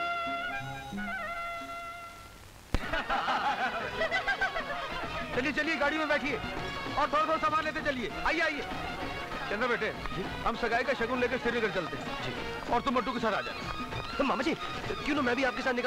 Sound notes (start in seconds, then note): 2.8 All laughs